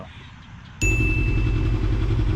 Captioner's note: ding